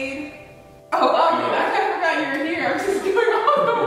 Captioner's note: laughing